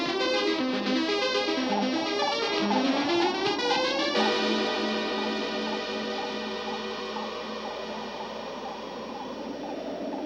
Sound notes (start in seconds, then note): 1.5 beeping